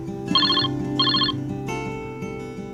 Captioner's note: ringing